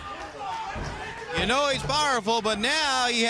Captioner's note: crowd chatter